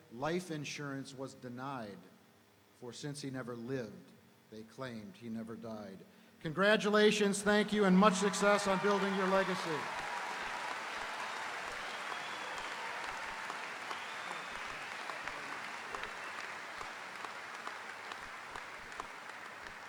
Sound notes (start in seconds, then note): 10.0 audience applauding; 10.0 audience cheering